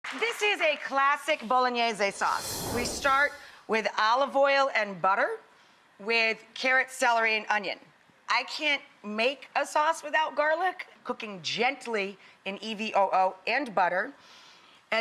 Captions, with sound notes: (audience applauds) This is a classic Bolognese sauce. (air whooshes) We start with olive oil and butter, with carrots, celery, and onion. I can't make a sauce without garlic. Cooking gently in EVOO and butter,